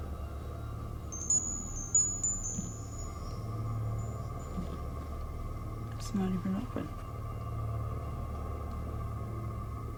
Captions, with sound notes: (windchime tinkling) It's not even open. (ominous music)